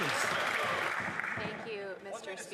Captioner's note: some Applause